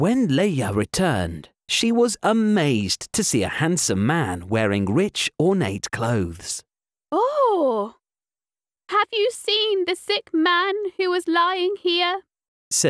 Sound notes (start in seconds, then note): 7.2 sigh of amazement